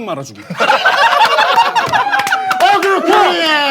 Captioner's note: staff are cheering